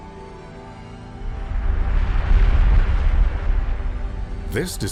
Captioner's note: explosion